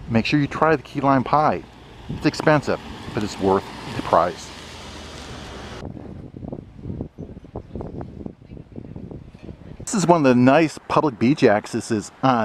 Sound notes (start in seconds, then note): 5.9 guests softly chattering; 5.9 wind gusting